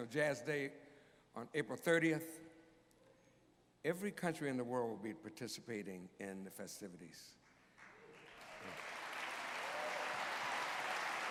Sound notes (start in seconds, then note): 7.5 applause